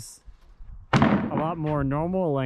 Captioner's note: wood thudding